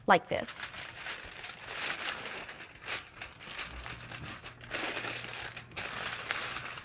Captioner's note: aluminum foil rustling